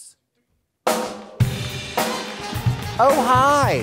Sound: upbeat jazz music; audience claps

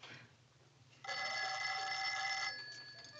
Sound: phone ringing

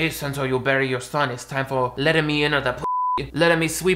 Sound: beep

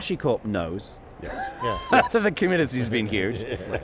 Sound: group laughing

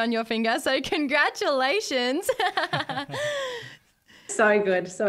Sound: giggles

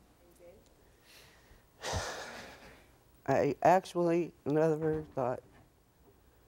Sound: sighs

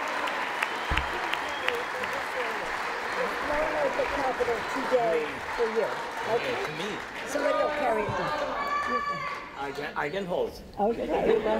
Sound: applause

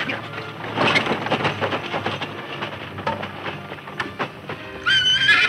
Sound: wagon rattling; horses neighing

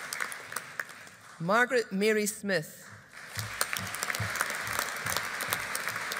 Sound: audience applauding

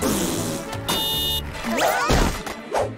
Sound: honking

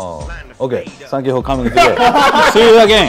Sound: laughter

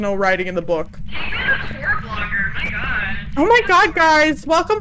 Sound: over Radio

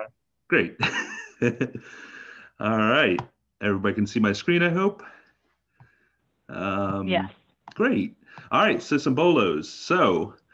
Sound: chuckle

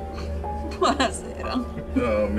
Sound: laughing

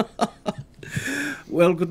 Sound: laughs

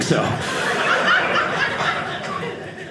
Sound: audience laughing

